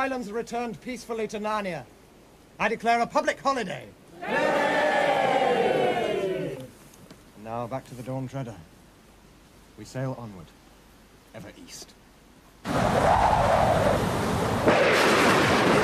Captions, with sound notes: The Lone Islands are returned peacefully to Narnia. I declare a public holiday. (Crowd) Hooray! And now back to the Dawn Treader. We sail onward, ever east. (Wind howling, waves crashing)